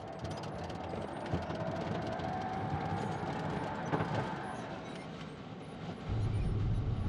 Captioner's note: glider creaking, rumbling